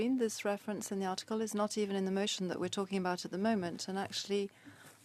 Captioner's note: speaking French